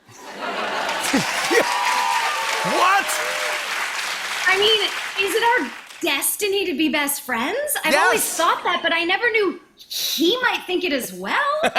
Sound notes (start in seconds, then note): 0.1 laughter; 0.2 cheers and applause